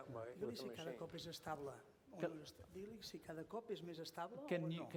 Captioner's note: non-english speech